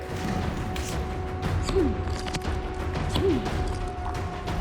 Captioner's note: he grunts